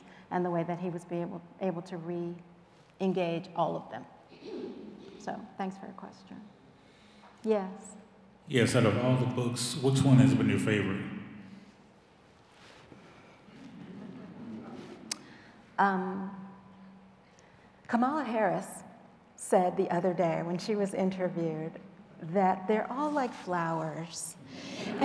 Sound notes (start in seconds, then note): 13.5 audience chuckling